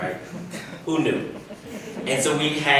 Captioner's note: audience laughs